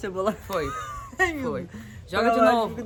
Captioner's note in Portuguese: laughing